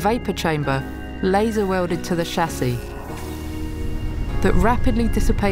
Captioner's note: sizzling